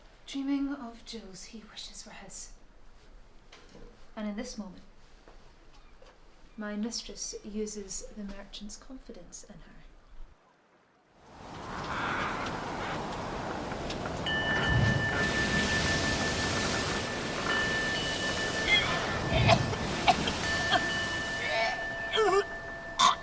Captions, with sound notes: dreaming of jewels he wishes were his. And in this moment, my mistress uses the merchant's confidence in her. (waves crashing) (bell dinging) (Amy retching and coughing)